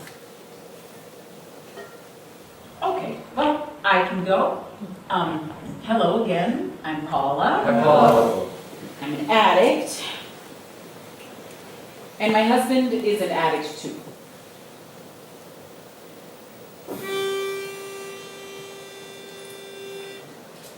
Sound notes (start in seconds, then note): 7.9 all echoing